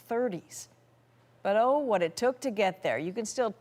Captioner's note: none